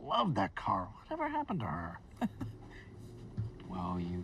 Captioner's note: Mrs. Frost laughs